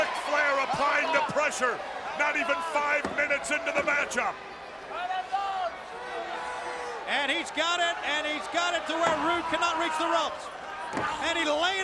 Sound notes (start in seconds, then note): 4.7 crowd chatter